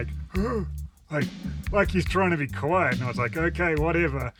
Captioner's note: grunts